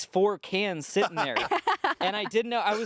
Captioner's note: laughs